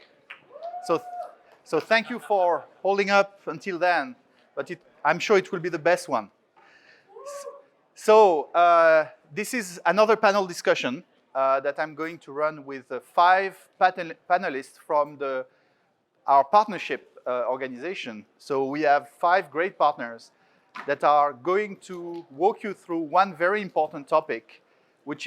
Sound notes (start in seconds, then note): 0.5 audience member cheers; 7.2 audience member cheers